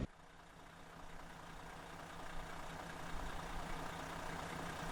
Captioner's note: engine rumbling